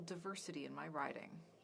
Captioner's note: speaking French